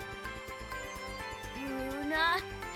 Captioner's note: sounds of a little glade